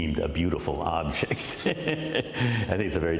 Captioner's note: laughter